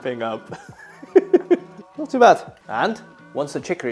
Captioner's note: laughing